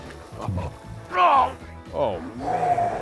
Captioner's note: groan